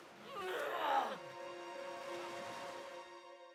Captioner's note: George groaning